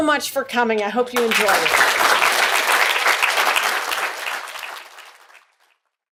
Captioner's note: audience applauding